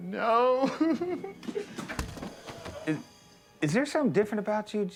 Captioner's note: Homer cries